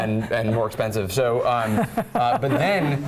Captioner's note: laugh